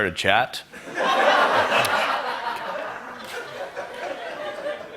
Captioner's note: laughter